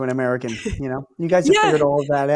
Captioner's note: laughs